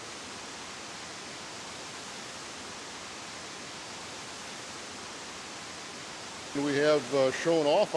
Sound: water running

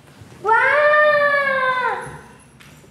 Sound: child's voice screaming

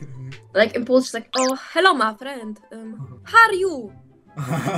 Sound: english with Polish accent

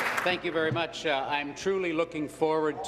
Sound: applause

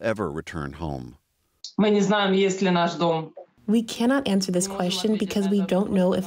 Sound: through translator

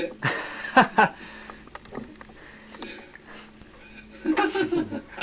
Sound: laughter

